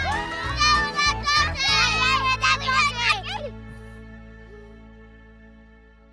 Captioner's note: children shouting "Dewin a Doti"